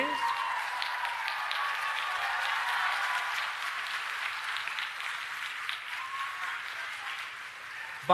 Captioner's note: applause